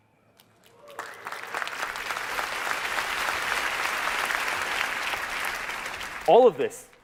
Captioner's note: applause